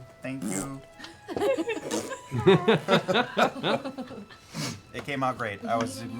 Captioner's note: laughter